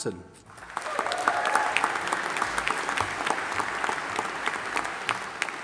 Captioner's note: audience applauding and cheering